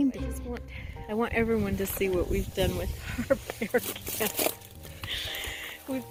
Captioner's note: laughing